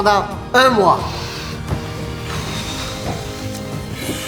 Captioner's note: excited breathing